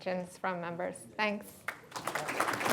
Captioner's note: applause